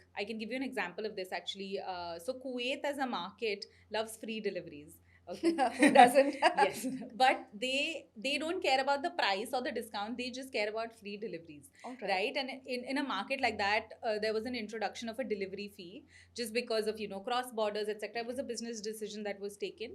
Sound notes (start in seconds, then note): 5.8 laughs